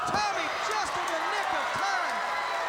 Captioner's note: crowd cheering